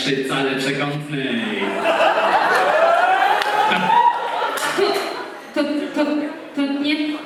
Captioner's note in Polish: Aplauz